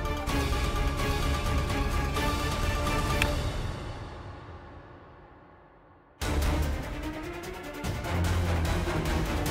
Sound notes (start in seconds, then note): 3.1 snaps finger; 7.7 pensive music playing